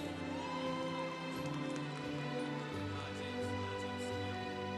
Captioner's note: congregation cheering